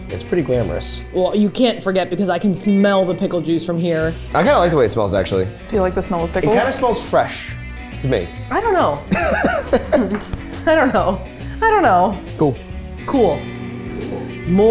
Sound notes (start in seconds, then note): 9.1 laughing